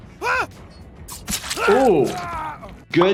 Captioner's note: blood sloshes